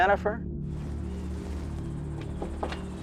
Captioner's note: knock on door